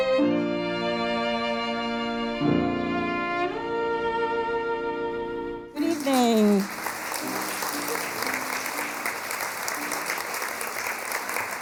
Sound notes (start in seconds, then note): 0.0 soft orchestral music; 8.0 audience clapping